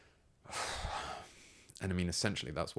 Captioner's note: sighs